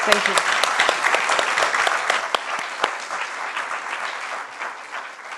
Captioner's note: applause